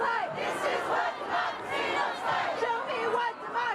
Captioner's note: unison chant